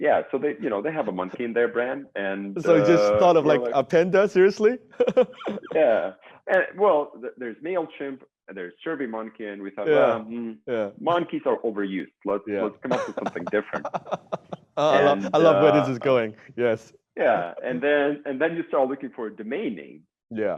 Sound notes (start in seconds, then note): 12.6 chuckling